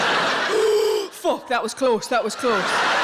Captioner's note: audience laughing; inhales loudly; audience laughing